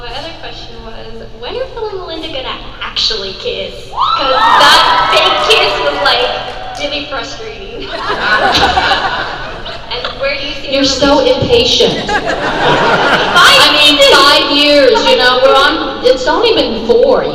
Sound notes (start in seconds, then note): 4.0 crowd cheers